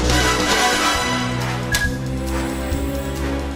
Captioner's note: beeps